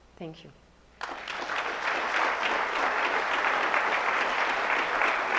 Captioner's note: audience applauds